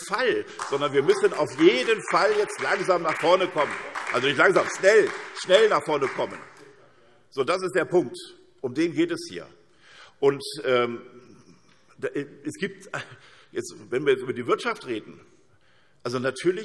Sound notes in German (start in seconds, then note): 2.7 Beifall SPD